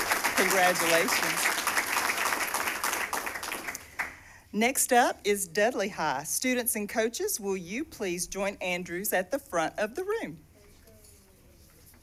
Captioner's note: cheers and applause